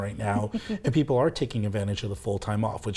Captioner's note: giggles